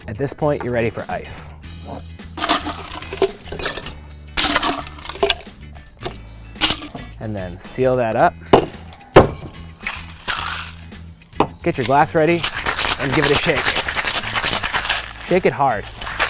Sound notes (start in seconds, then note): 2.4 ice scraping and hitting glass; 9.7 hand hitting shaker; 11.3 cocktail shaker rattling